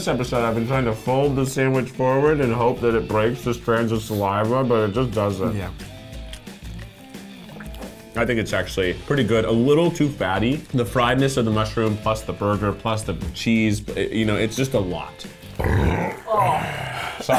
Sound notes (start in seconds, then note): 15.4 burping